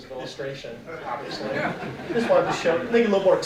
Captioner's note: audience laughing